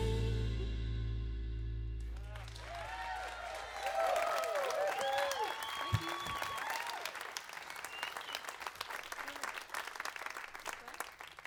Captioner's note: crowd applause